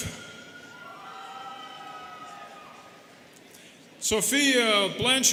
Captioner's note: students cheering